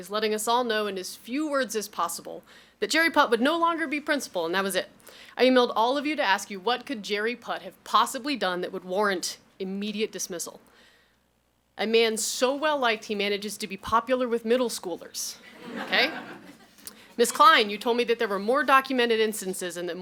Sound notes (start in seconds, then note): 15.5 audience laughs